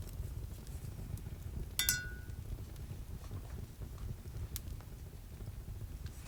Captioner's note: brush clinks